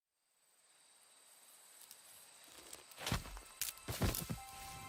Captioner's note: chirping of crickets